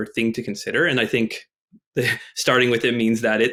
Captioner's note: chuckles